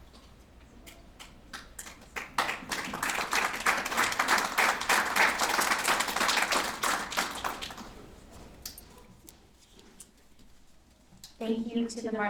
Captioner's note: applause